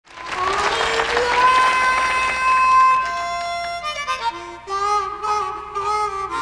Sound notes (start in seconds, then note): 0.0 clapping